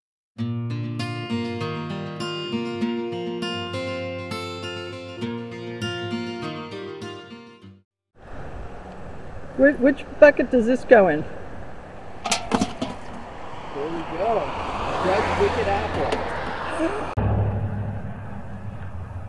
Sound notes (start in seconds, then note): 12.5 can clinking; 16.7 engine sound